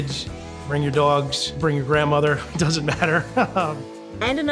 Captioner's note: laughs